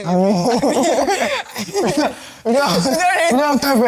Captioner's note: laughs